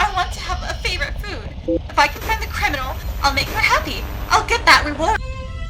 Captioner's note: another Beep, Quality of Voice Decays Further, Static grows louder